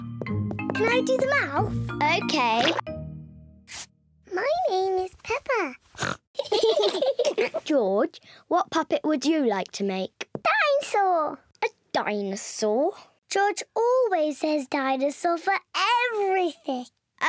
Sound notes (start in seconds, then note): 5.6 oinks; 6.4 all laugh